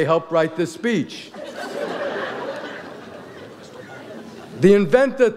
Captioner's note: audience laughs